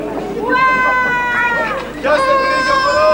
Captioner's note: κλάμα μωρού